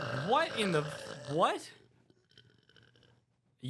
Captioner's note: epic burp